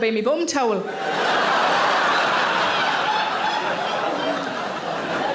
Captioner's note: audience laughing